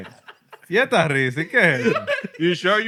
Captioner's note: speaking Spanish